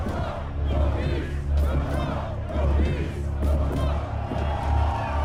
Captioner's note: crowd chanting